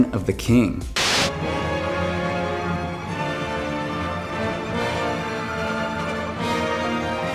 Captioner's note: screen buzzes; inspiring whimsical music